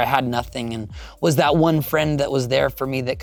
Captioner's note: inhales